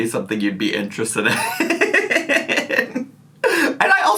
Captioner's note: laughs